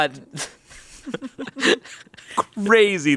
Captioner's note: chuckle